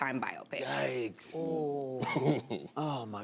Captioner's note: chuckles